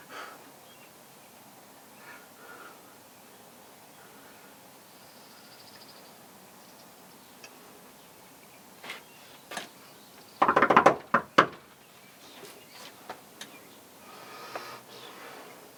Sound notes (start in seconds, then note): 10.4 rapid knocking; 12.1 birds chirping